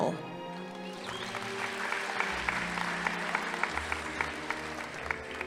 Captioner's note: audience applauding